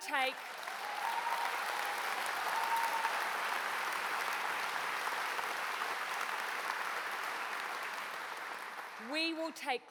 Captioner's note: applause